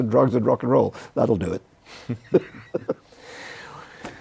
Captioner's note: laughs